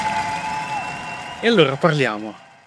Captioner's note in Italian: Applauso